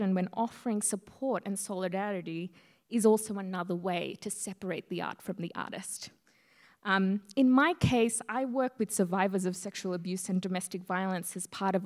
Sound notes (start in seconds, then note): none